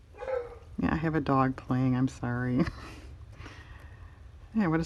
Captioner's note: dog barks